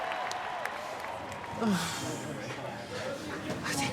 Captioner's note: exhaling